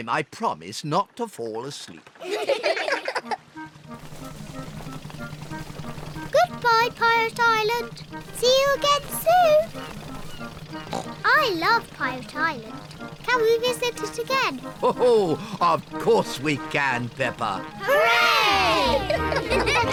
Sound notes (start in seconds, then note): 0.2 all giggle; 10.7 oinks; 18.5 all laugh